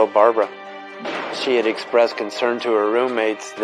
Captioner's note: gunfire blasting